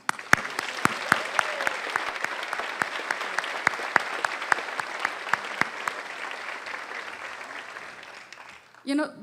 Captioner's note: applause